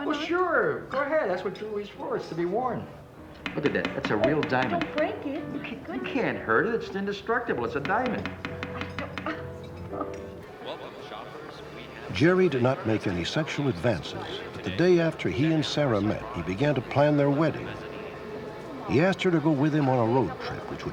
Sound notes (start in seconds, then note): 3.4 banging on table; 7.8 banging on table